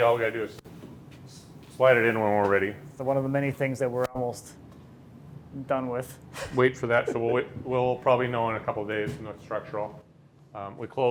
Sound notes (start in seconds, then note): 6.9 laughs